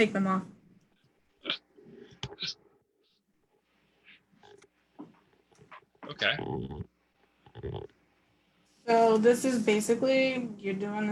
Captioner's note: laughs